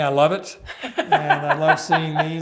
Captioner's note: host laughs